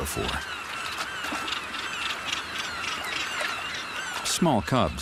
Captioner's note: gulls chirping